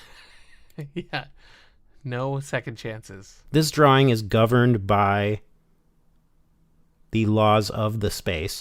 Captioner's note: laughter